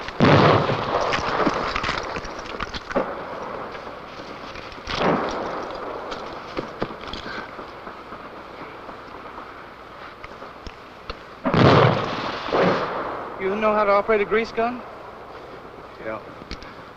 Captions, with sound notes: [explosions] [footsteps] [explosions] - You know how to operate a grease gun? - Yeah.